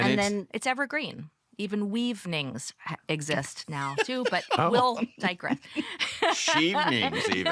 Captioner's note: laughter